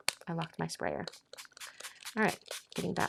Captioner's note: sprayer hissing